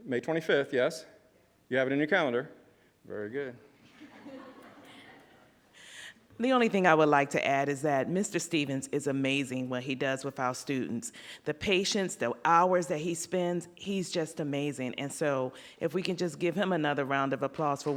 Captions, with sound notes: May 25th, yes, you have it in your calendar. Very good. (audience laughs) - The only thing I would like to add is that Mr. Stevens is amazing what he does with our students, the patience, the hours that he spends, he's just amazing. And so if we can just give him another round of applause